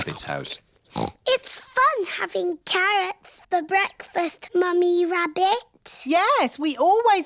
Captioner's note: snorts